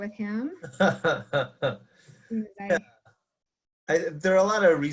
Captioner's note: laughs